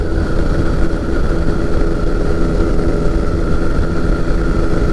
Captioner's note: plane engine rumbling